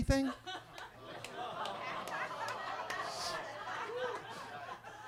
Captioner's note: attendees laughing